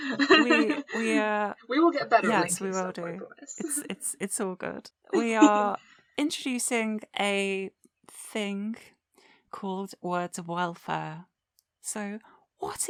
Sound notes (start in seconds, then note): 5.1 giggles